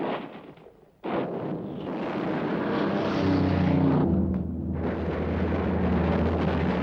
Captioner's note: plane engine roars